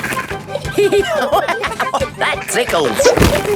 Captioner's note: laughing; giggling